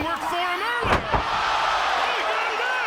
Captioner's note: audience cheering